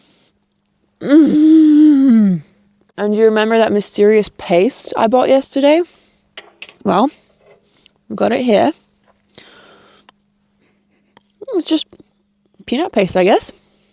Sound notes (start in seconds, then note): 1.0 groans